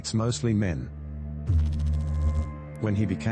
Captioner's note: electrical noise